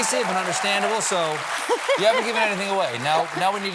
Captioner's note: applause